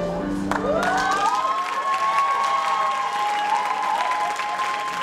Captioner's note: applause and cheering